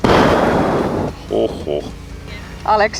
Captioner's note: bigh sigh